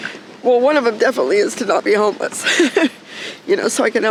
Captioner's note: laughing